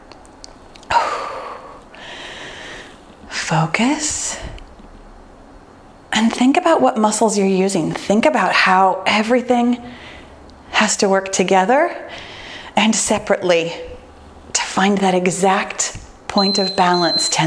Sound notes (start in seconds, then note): 1.9 exhales deeply; 16.3 timer beeps